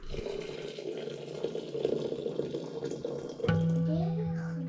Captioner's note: water sloshing